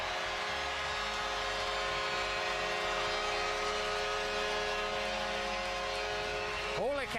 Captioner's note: horn sounding